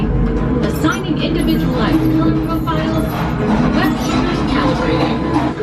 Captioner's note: mutters; voice fades